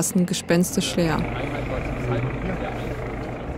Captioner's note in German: Stimmengewirr, Hubschrauberlärm